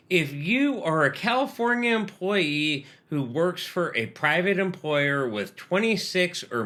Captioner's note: none